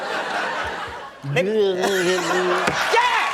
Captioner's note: audience laughter